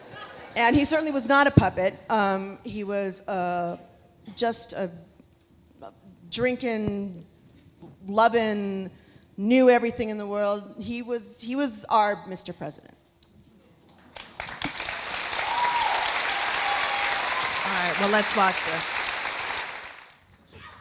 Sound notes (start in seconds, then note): 14.1 audience applauding; 14.6 audience cheering